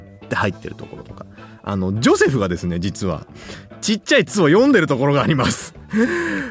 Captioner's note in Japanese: 笑い